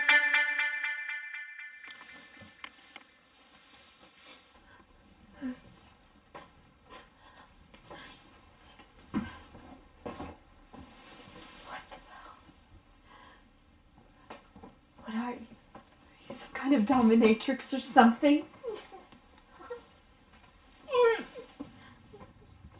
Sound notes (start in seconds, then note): 0.0 intense music playing; 1.8 rustling sound; 5.4 sobbing; 8.1 sniffing; 8.9 rustling sound; 19.1 sobbing